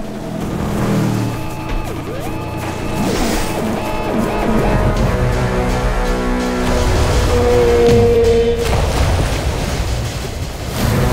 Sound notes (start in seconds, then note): 0.1 boat whirs; 3.3 dramatic music; 3.3 water whooshes; 7.2 whale cries and splashes; 10.8 dramatic music